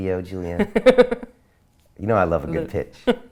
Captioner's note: laughs